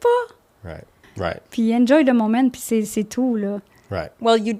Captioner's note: in french